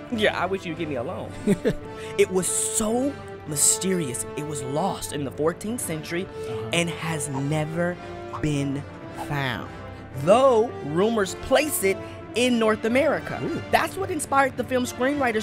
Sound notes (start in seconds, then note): 1.3 laughter